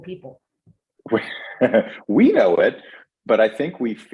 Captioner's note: laughing